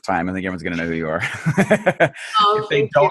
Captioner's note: laughs